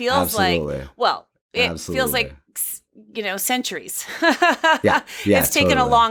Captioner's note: laughs